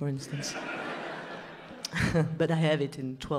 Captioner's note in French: rires